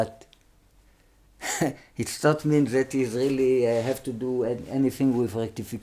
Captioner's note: laughs